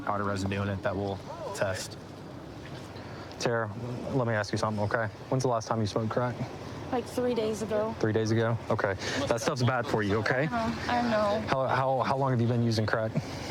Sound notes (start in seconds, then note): none